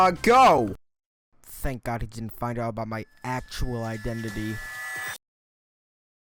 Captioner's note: whispering to himself